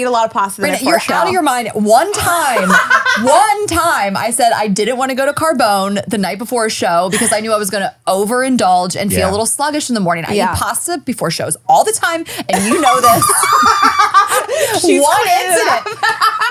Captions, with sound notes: eat a lot of pasta. - Outta your mind. One time, one time I said I didn't wanna go to Carbone the night before a show because I knew I was gonna over-indulge and feel a little sluggish in the morning. I eat pasta before shows all the time. And you know this. (laughing)